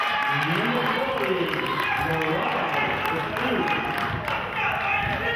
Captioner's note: clapping